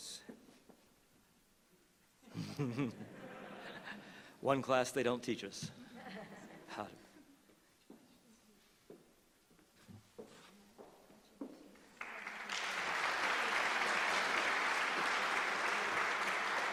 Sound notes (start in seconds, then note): 0.3 laughter